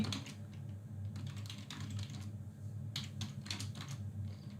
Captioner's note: keyboard clicks